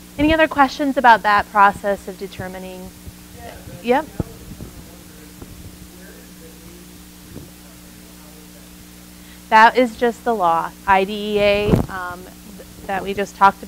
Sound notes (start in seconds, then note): 5.3 microphone feedback drowning out audience member